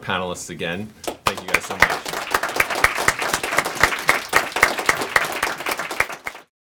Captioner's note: audience applauds